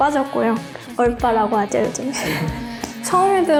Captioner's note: laugh